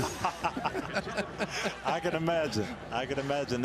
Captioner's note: laughter